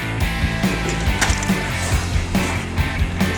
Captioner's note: clattering over music